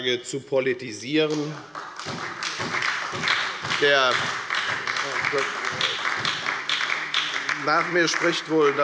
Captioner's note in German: Beifall bei der FDP und bei Abgeordneten der SPD